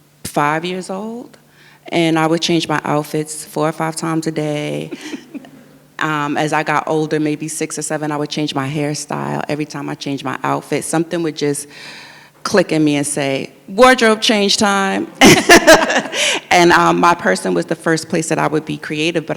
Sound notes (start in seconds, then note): 4.8 giggles; 15.2 both laugh